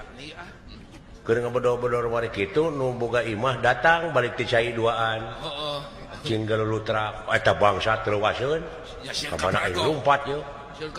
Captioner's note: laugh